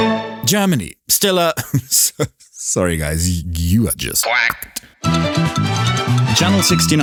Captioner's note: chuckles